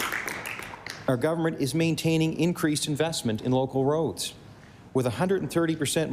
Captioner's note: applause